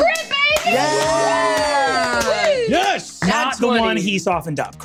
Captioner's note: cheers